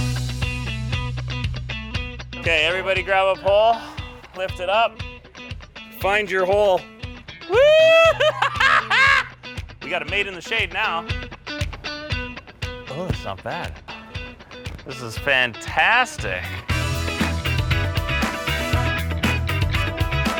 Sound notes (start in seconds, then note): 7.5 laughs; 17.3 upbeat funk music